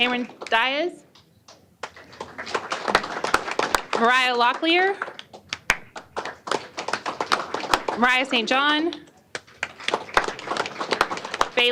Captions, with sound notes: Cameron Diaz. [APPLAUSE]. Mariah Locklear. [APPLAUSE]. Mariah St. John. [APPLAUSE].